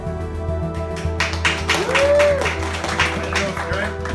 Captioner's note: clapping